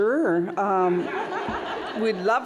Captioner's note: laughter